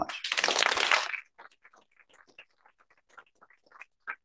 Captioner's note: applause